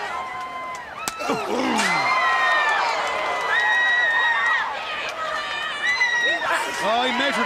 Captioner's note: crowd cheering